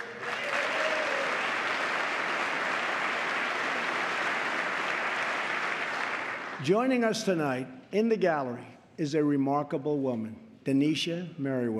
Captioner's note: applause